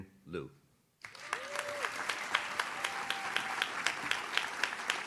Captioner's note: audience claps